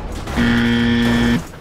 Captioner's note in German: mieeep